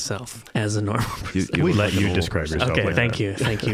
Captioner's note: laughing